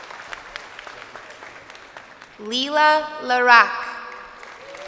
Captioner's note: crowd applauding